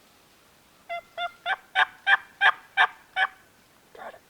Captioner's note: turkey calling